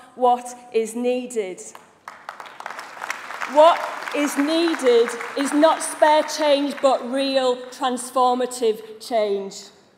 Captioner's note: applause